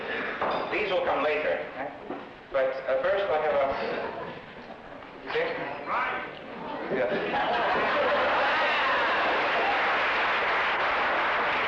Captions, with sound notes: These will come later, but first I have this. (shout from class) (laughing and clapping)